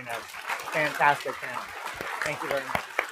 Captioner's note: applause